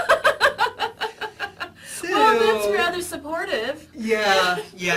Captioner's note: laughs